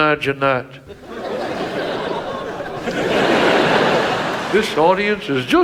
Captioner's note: audience laughs